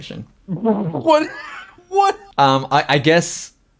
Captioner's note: laughs